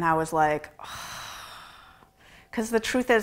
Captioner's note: sighing